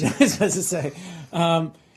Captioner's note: laughter